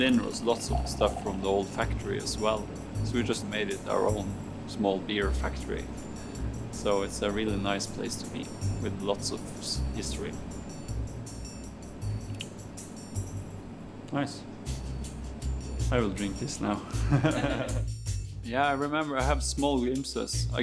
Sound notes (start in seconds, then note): 10.5 gentle music; 16.9 all chuckling